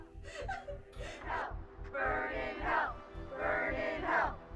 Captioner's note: chanting